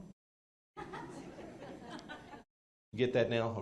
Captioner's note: attendees laugh